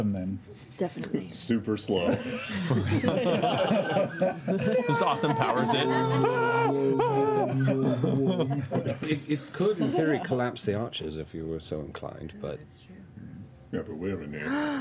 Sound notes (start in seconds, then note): 1.7 laughing; 2.0 laughter